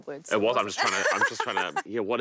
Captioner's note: laughing